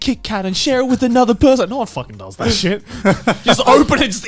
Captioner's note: laughs